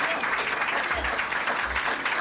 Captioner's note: clapping